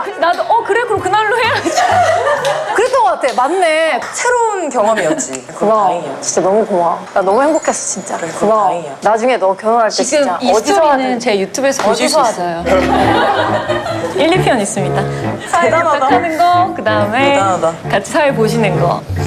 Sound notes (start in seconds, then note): 8.9 talking with each other